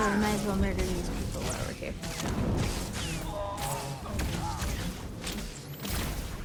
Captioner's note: gunfire